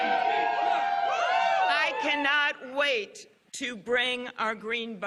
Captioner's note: cheers and applause